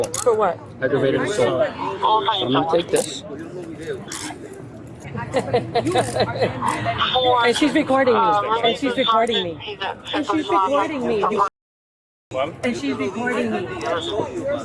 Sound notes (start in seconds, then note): 1.8 radio chatter; 8.4 radio chatter